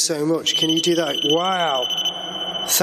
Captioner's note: digital beeping